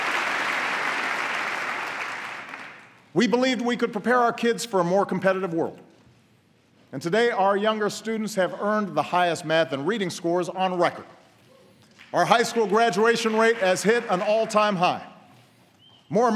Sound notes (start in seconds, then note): 0.0 applause